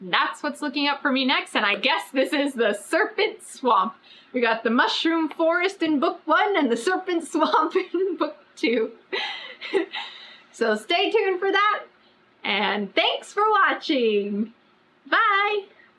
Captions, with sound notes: THAT'S WHAT'S LOOKING UP FOR ME NEXT AND I GUESS THIS IS THE SERPENT SWAMP WE GOT THE MUSHROOM FOREST IN BOOK ONE AND THE SERPENT SWAMP IN BOOK TWO [LAUGHS] SO STAY TUNED FOR THAT AND THANKS FOR WATCHING BYE